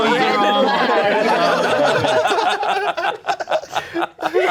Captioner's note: everyone laughing